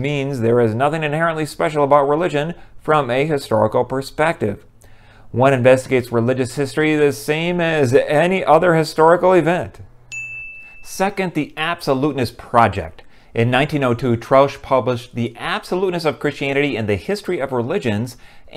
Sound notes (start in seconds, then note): 10.1 chime